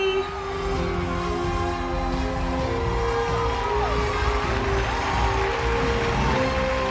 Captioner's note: crowd applauds; crowd cheers